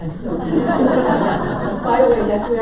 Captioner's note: audience laughs